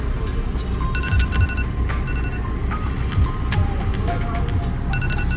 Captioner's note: traffic blares; notifications ring